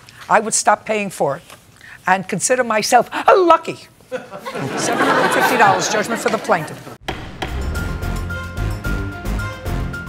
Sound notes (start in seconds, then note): 4.1 laughter